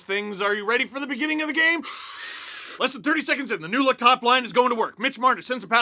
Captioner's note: deep breath